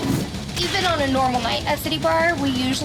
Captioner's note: flogger slapping